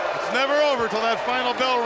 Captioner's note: crowd cheering